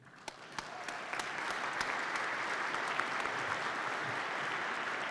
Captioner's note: participants clap